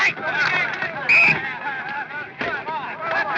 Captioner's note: people chattering indistinctly; whistle blows